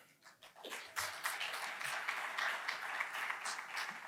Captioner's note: applause